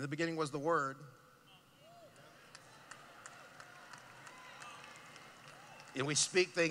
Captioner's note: cheering